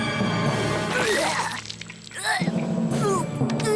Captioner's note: vomits